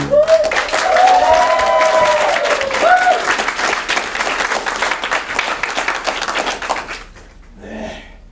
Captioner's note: cheers, applause